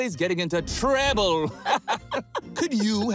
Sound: both chuckle

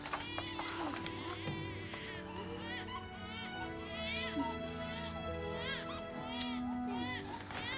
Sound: baby continues crying

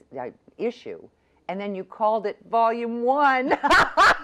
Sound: laughs

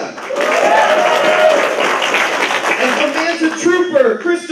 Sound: applause

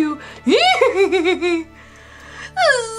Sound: Scooby laughs

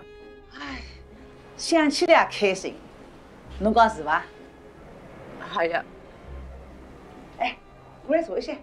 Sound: speaking Chinese

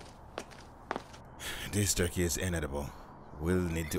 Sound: sighs

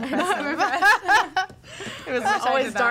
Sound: all laughing

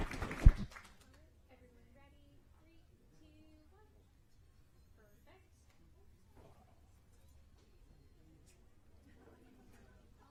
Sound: applause

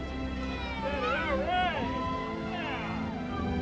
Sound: all cheering

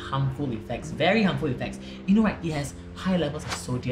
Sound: none

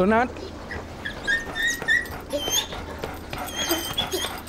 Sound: dog whining

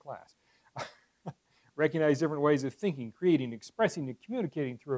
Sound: laugh

